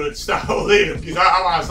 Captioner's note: laughs